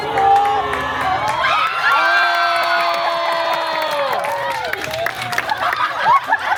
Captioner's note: guests cheering and screaming; guests laughing